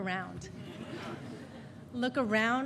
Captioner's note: audience laughing